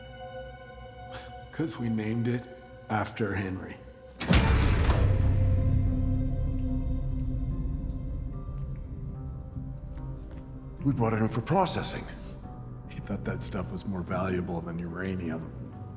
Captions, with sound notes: - (laughs) 'Cause we named it after Henry. (door squeaks) (eerie music continues) - We brought it in for processing. - He thought that stuff was more valuable than uranium.